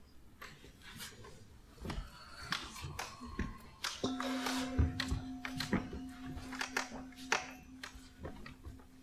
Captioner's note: sound of gentle gong